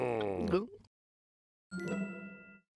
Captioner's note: growls; gulps